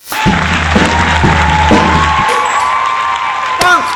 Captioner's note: audience cheers